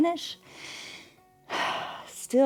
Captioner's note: inhales and exhales